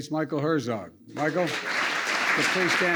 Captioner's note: applause